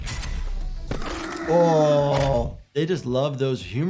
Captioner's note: bone cracks